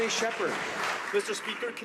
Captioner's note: some Applause